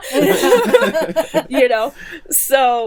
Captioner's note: laughing